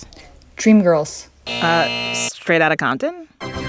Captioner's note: soundbite of buzzer; soundbite of victory tune